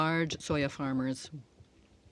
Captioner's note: speaking in French